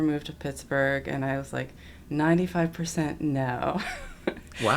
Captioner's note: laughs